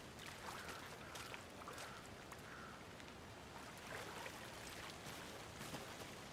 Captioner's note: water lapping